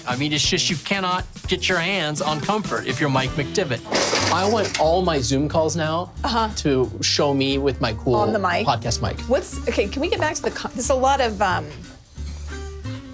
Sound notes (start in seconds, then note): 3.8 chair clattering